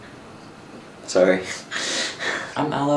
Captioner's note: laughs